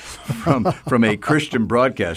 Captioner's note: chuckling